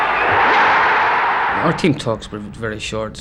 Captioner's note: crowd roaring